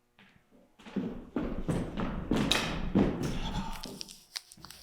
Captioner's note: feet stomping; leaves rustling